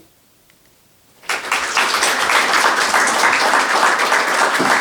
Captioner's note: applause